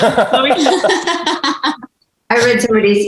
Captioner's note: everyone laughing